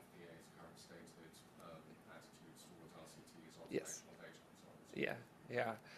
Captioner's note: speaks faintly